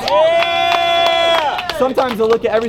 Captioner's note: audience cheers